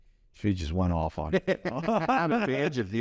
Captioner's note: both laugh